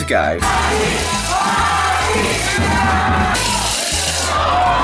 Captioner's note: crowd chanting; crowd screaming